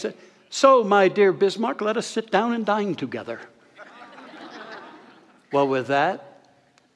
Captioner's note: audience laughter